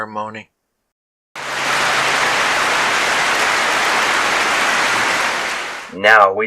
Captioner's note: clapping